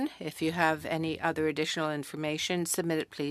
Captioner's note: speaking French